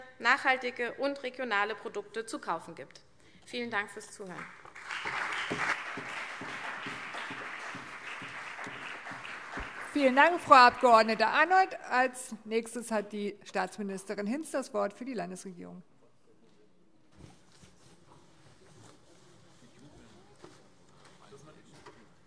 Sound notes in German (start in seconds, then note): 4.3 Beifall CDU und BÜNDNIS 90/DIE GRÜNEN